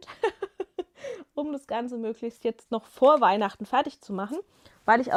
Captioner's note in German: gelächter